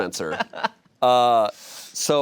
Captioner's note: laughs